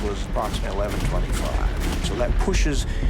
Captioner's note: gunshots